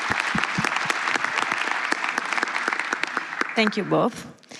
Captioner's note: applause